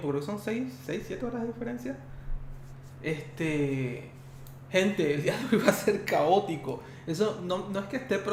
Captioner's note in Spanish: risas